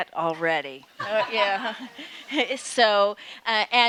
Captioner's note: audience laughing